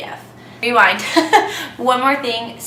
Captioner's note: laughs